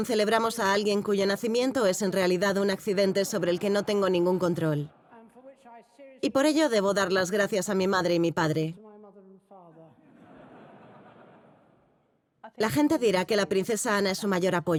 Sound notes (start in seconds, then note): 2.8 audience laughing; 9.9 audience laughing